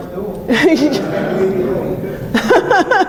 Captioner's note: laughs